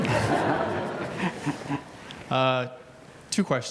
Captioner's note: laughing